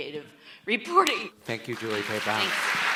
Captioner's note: audience applauds